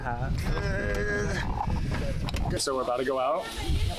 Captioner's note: grunting